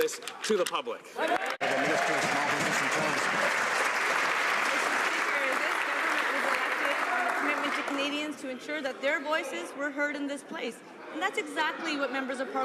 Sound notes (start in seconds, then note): 3.8 some Applause